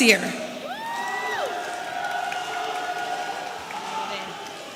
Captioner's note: audience cheering